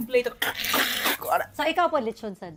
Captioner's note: mimics crunching sounds